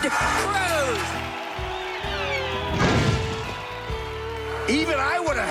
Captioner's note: laughing; comedic fall and bang